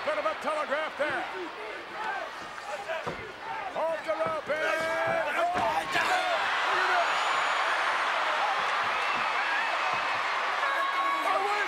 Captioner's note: applause